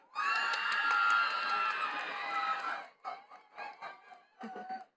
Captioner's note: attendees cheering and clapping